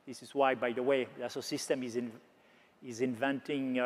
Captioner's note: none